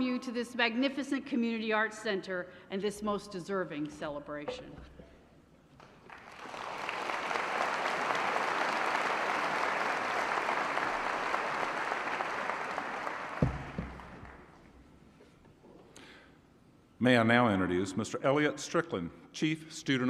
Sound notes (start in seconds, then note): 5.8 applause